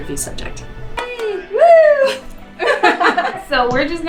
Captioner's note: laughter